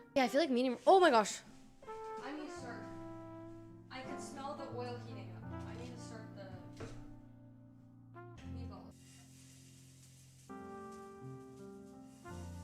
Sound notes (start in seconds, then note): 8.4 sizzling; 10.5 soft Music